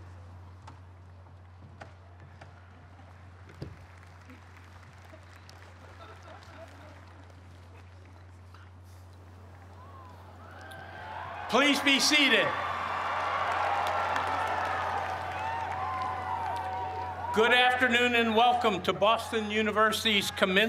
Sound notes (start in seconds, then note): 2.3 cheers and applause